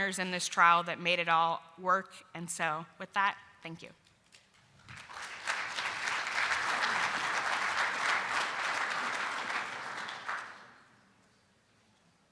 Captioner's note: round of applause from audience